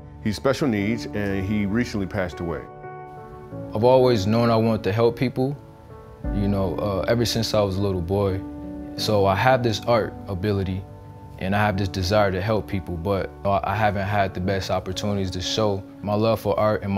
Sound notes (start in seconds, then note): none